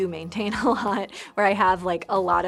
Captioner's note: laughs